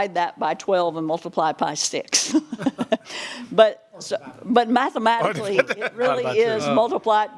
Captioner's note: laughter